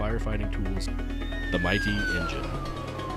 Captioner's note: fire siren